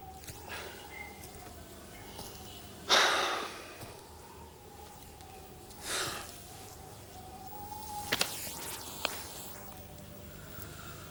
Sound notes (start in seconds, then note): 2.8 Graham sighs; 5.4 wind howling